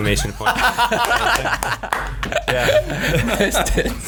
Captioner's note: laughing